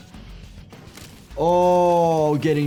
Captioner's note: rock music; bones cracking